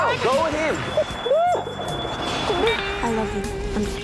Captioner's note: sobbing